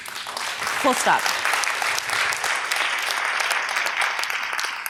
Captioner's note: audience applause